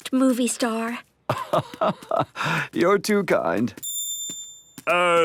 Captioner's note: laugh